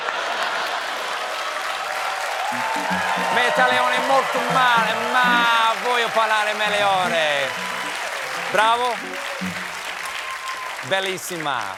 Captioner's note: speaking italian